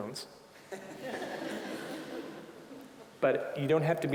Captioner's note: audience laughing